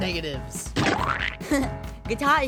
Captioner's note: splat